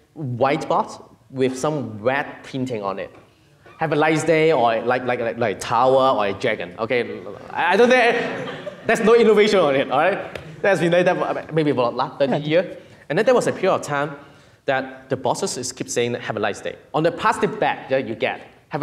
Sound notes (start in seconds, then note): 7.8 audience laughing; 12.0 murmuring